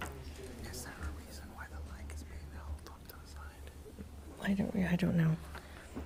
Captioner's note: whispers